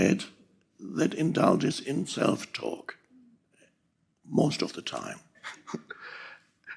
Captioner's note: chuckles